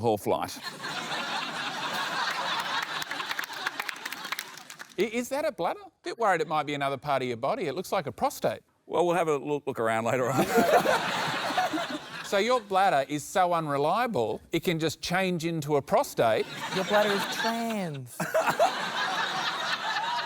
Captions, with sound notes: Please refer to my bladder as a them. (LAUGHTER) I think your bladder's pronouns are we-slash-we. (LAUGHTER, APPLAUSE)